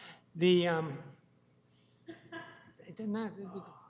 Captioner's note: laughter